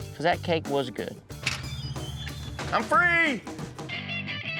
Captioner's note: door opens